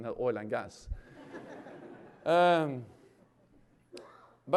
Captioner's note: laughter